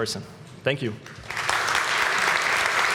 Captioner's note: applause